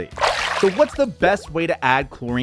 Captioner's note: splashing tone